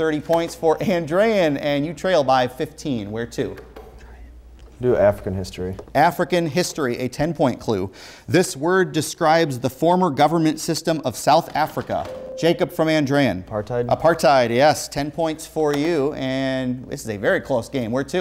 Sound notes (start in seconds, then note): 4.0 whispering; 12.0 beeping